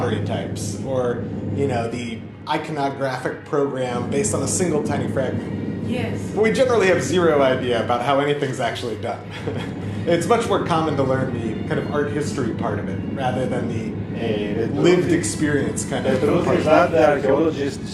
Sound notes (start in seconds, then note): 9.3 laughs